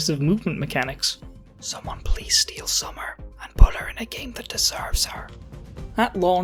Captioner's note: whispering